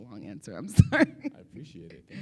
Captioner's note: laughs